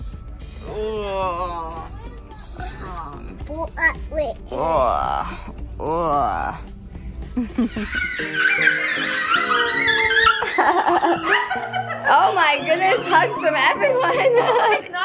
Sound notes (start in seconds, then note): 4.5 groaning; 7.3 laughs; 7.4 boys squealing; 11.3 chuckles